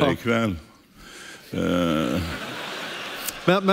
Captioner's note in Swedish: publiken skrattar